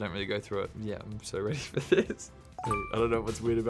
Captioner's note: chuckling